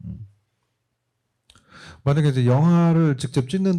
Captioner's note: speaking korean